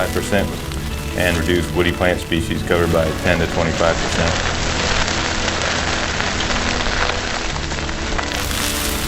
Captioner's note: loud crackling flames